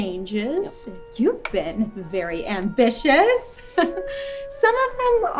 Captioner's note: chuckles